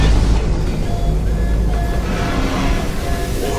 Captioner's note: siren noises